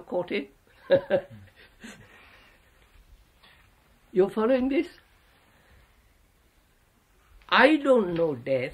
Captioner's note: laughs